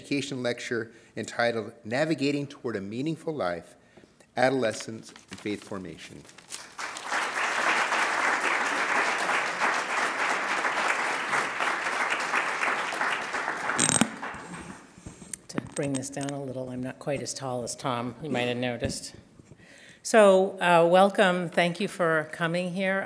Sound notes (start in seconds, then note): 6.3 applause